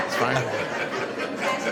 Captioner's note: laughter